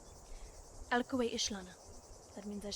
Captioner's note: speaks foreign language